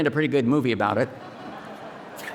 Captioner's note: audience laughing